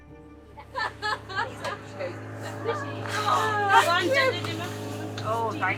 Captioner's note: people laughing